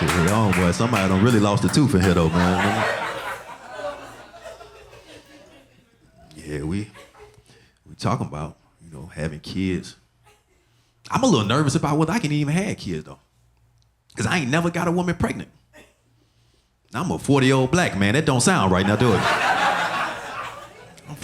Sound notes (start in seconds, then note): 3.3 audience laughing; 18.8 audience laughing